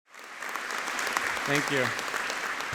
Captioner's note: audience applauding